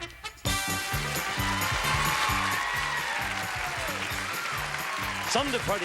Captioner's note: applause